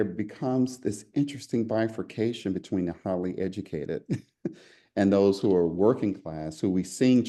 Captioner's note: laugh